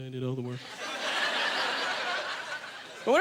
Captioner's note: audience laughter